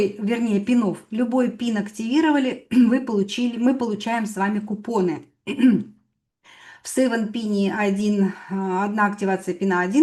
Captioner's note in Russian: откашливается